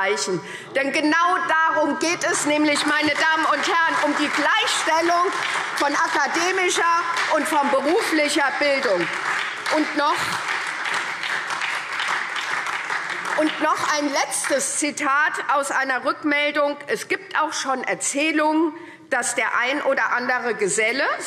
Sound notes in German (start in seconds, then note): 9.8 Beifall SPD